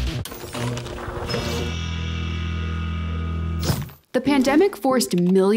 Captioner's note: image screeching; dramatic music